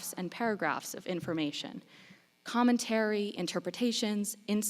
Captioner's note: none